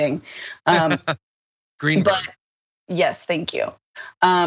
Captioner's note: laugh